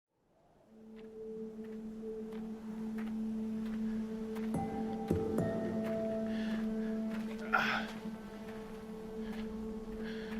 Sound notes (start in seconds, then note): 1.4 gentle music; 3.3 gravel crunching; 7.7 man grunting